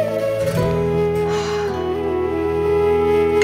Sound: Ananya gasps

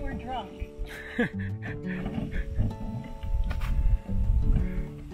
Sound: laughing

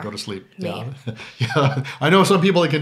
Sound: he laughs

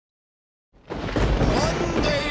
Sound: lightning strikes

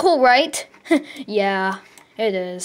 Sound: chuckles

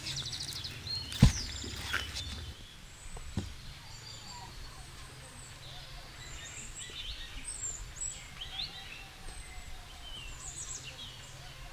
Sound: sound of nature

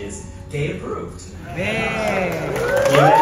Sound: crowd Cheers

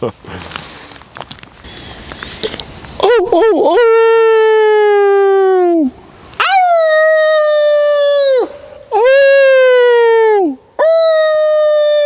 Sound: howling

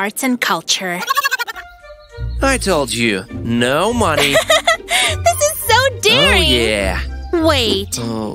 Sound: chuckles

